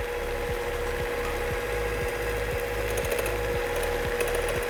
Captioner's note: mixer whirring